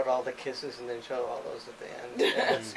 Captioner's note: laughs